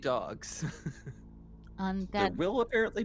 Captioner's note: Cornette laughs